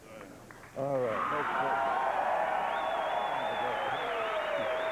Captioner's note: cheers and applause